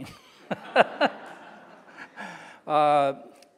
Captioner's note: laughing